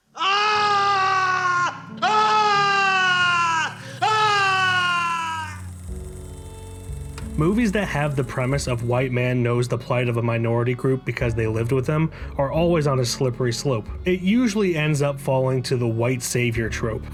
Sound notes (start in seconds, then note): 0.0 screaming; 0.1 still screaming; 3.3 screaming some more